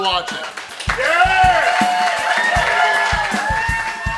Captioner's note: crowd cheering